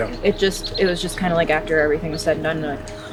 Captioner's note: exhales